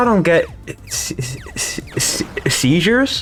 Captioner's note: snake Noises